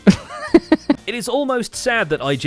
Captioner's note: laughs